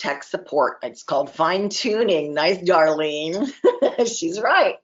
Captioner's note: laughs